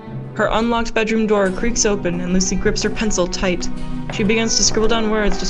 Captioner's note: footsteps